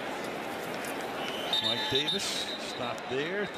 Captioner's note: whistles